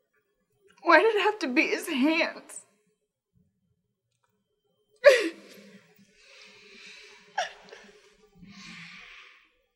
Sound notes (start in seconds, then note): 5.0 sobs